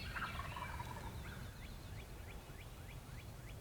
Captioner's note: turkey gobbles